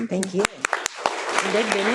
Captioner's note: people laughing